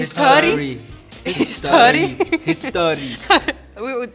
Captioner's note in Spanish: Acento sueco